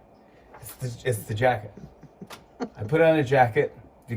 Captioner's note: laughing